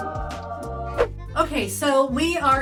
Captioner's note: angels sing; swish